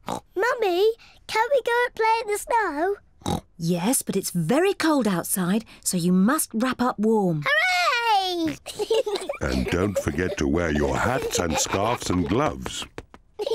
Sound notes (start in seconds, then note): 8.4 both giggle